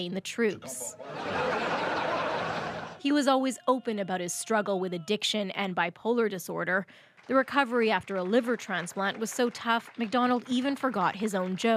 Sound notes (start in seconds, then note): 3.8 laughter